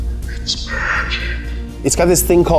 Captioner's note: whispering